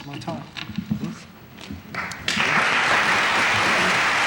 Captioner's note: applause